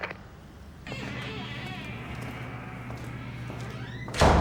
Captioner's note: door squeaks; door thuds